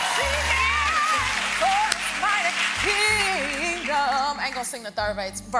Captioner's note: applause